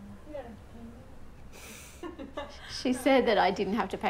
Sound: chuckling

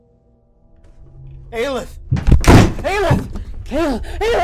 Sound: violent, loud thud from across the wall; fist banging

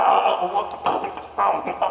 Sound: scoff

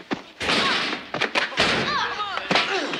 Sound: lockers slamming; hand slapping

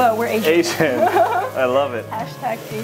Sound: laughing

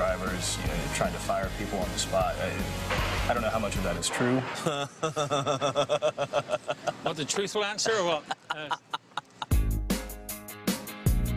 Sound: laughing

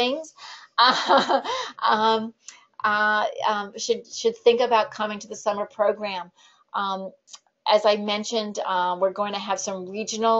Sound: laughs

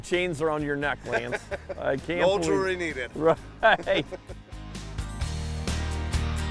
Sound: laughing

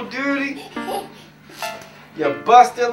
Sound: tylis laughing

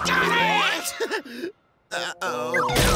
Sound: laughs

